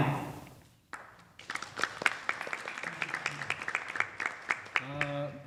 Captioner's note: scattered applause